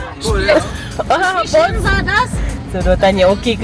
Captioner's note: laugh; speaking German